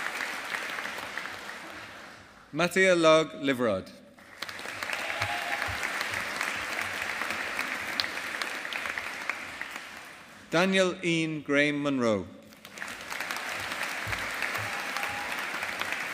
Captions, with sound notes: Mathea Log Liveroed. (AUDIENCE APPLAUDING) Daniel Iain Graham Munro. (AUDIENCE APPLAUDING)